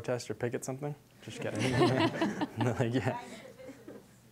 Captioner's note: audience laughing